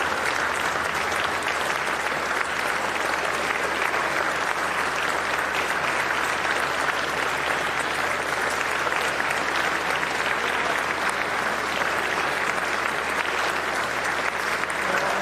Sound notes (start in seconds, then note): 0.0 continued applause